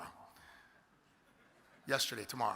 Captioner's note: audience laughs